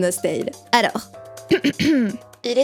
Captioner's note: clears throat